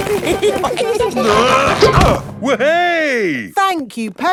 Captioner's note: all giggling; grunting